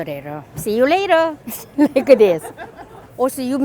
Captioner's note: laughs